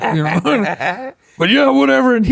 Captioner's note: laughs